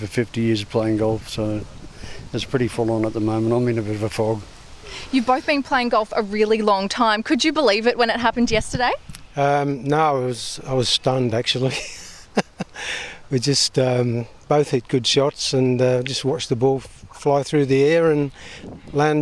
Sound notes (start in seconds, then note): 11.7 laughter and gasps